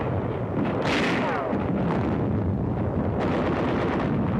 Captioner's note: guns firing